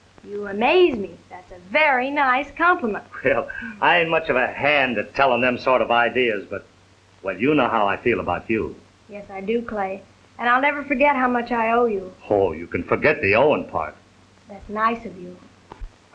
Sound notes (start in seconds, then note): 3.1 chuckling